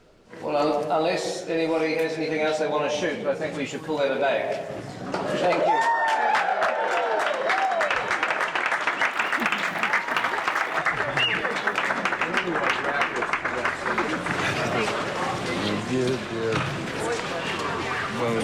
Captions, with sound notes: Well, unless anybody has anything else they wanna shoot... ...I think we should call that a day. Thank you. [CROWD CHEERING AND APPLAUDING] [CHATTERING]